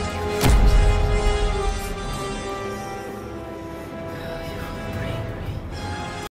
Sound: whispering

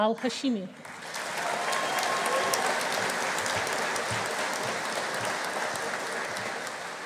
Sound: audience applauding; audience cheering

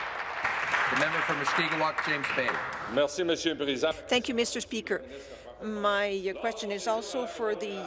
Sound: applause

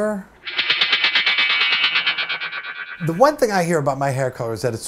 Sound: striking sword echo effect

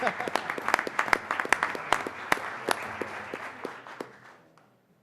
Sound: applause; applause

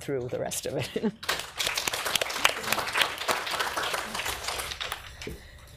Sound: audience applauds

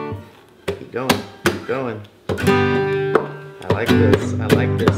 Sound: hand tapping

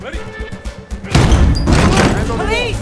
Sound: door ram slams

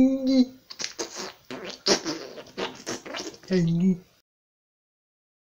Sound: poop noises

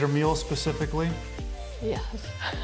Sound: laughing

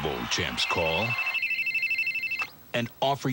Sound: phone rings

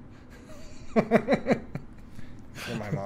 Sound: laughs

